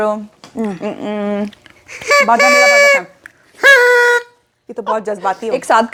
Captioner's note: horns & whistles